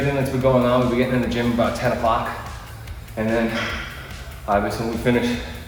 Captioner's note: exhale